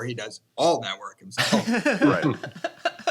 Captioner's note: laughter